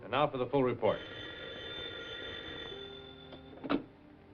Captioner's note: phone ringing